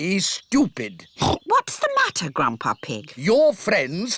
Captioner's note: oinks